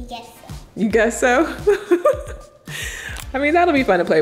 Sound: giggles

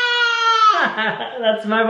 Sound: laughing

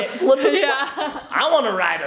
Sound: laughing

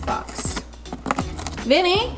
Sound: chewing

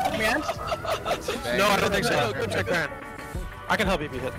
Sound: laughing

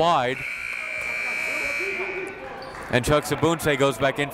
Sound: buzzer

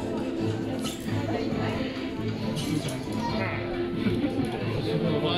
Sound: spider friend squeaks

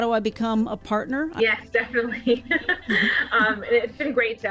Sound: laughs

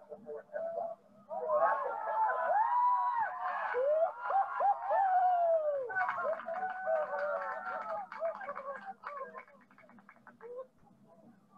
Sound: cheering

